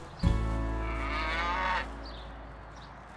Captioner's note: cow mooing loudly